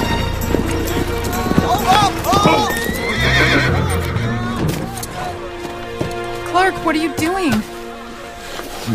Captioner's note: whinnies